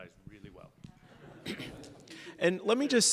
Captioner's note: laughter